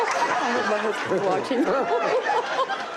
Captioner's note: laughs